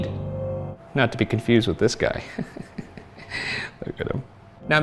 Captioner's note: chuckles